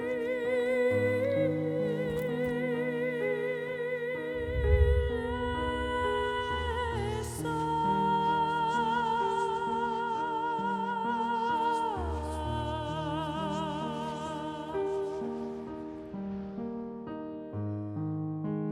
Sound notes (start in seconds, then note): 4.3 low hum; 6.8 echoing whispers